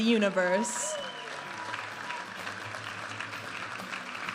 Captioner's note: audience applauding and cheering; upbeat music